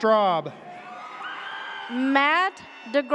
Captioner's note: audience cheers